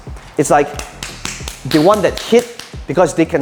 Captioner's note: slaps arm